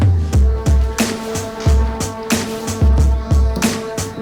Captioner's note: group murmuring